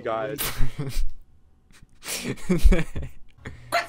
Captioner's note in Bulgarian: смях